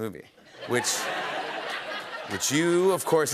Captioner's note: laughter